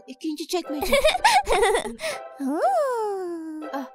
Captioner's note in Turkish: gülüyor